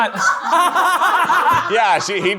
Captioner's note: everyone laughing